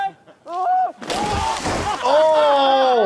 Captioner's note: Bam screams